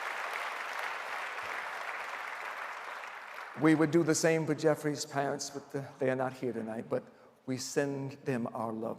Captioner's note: applause